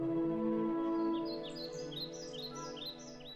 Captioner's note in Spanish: canto de los pájaros